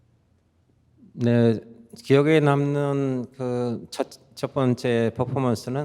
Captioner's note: speaking in Korean